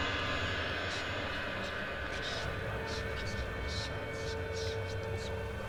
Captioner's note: ghostly voices whispering